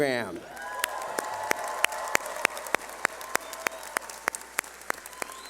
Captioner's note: cheering